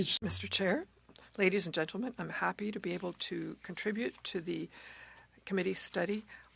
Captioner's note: speaking French